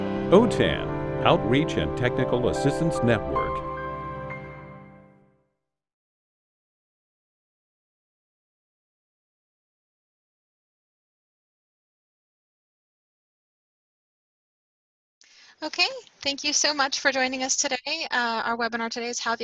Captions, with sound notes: OTAN Outreach and Technical Assistance Network [Silence] Okay. Thank you so much for joining us today. Our webinar today is How the